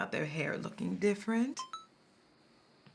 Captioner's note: phone chimes